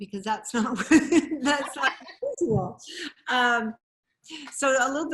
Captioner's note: laughing